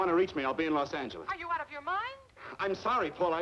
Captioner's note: on phone